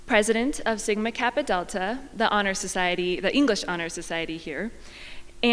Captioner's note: none